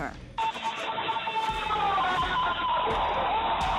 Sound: screaming

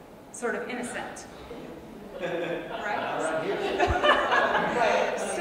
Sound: audience laughs

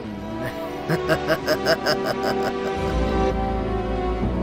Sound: evil chuckle

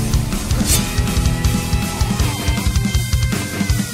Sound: upbeat rock music continues; sword slashing

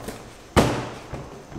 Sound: thud

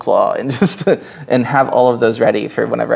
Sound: laughs

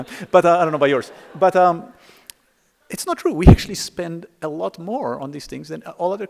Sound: laughter

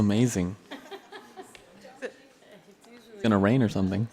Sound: board members laughs

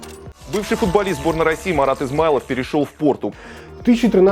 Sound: Russian

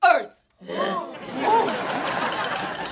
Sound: grunting

